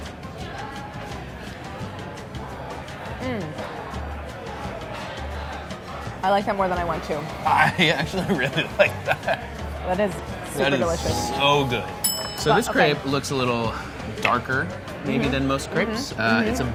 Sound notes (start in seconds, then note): 7.4 laughs; 10.9 bell dinging